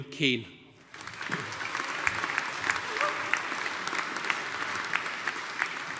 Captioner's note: audience applauding